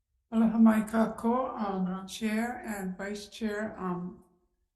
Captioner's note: speaking in foreign language